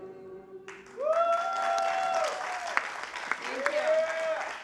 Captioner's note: applause